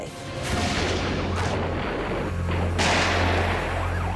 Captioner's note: guns fire